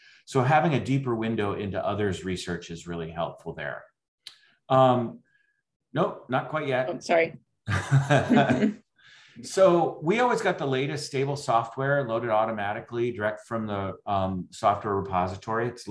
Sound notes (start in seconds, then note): 7.7 laughing